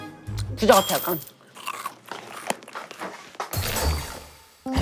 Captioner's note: snack eating ASMR